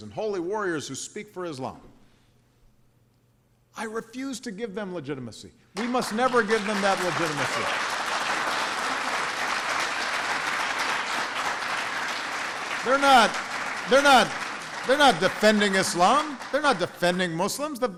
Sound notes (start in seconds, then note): 7.4 applause